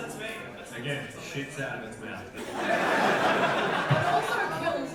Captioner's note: audience laughter